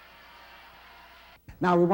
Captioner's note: crowds cheering